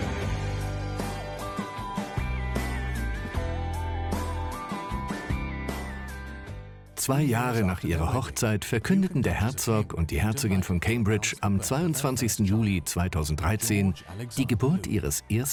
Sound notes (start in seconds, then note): 0.0 upbeat music; 6.8 voiceover